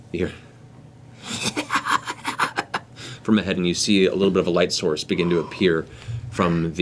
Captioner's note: cackling